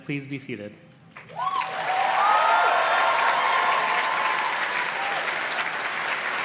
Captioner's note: audience cheers and claps